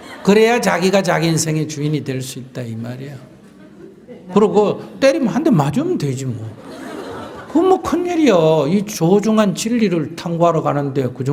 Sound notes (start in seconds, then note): 6.4 audience Laughter